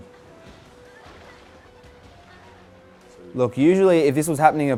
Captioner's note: splashing